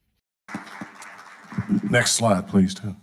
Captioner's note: audience applauding